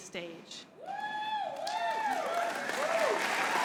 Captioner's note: applause